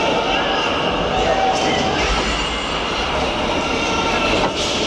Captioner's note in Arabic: صراخ الناس